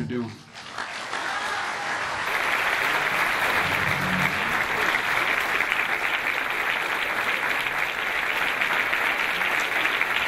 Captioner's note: clapping